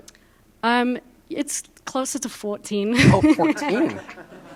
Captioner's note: laughter